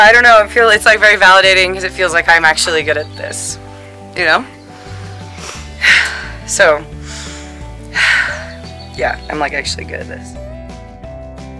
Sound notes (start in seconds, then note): 7.0 sighs; 11.3 bright twangy music